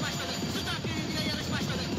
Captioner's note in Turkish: atlarin koşma sesi̇